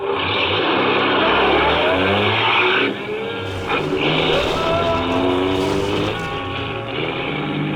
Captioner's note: car engine starts, car speeds off ... engine continues in bg